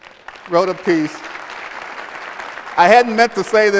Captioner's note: applause